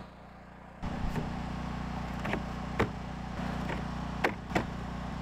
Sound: boards clattering

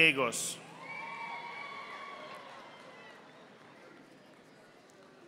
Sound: audience applauding

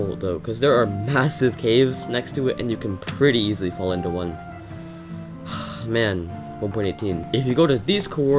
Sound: sigh

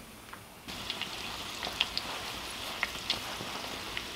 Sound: food sizzling

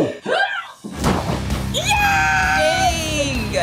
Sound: loud bang; forceful yell

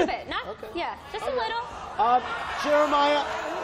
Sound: booing

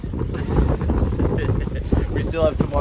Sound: laughs

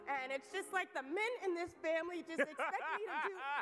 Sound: laughs

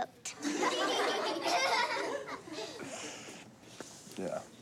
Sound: laughter

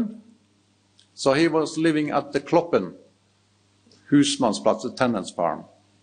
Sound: speaks in foreign language

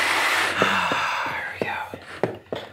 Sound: sigh

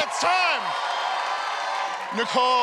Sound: cheers and applause

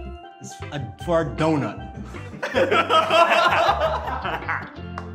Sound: group laughs

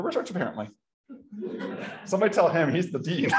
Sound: laughter

